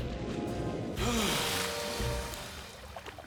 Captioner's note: exhales